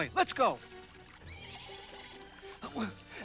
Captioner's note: whinny